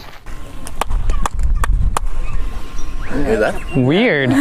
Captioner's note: clapping and bird-like echo